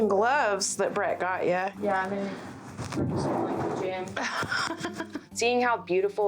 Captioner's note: laugh